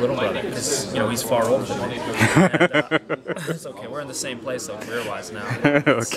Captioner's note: laugh; laugh